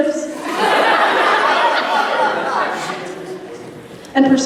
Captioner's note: laughter